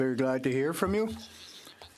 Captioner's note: speaking French